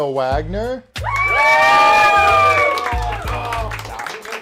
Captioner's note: cheers